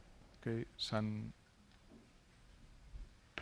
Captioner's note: speaking spanish